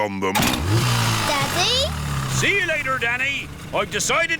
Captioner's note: engine starts